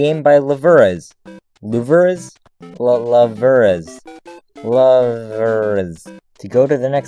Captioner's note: struggles to pronounce "luveras"